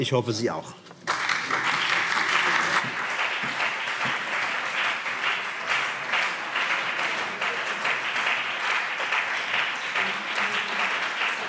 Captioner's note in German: Beifall